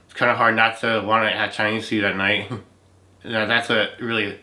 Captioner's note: laughs